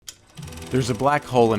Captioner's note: film clacking and whirring